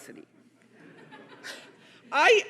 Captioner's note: audience laughing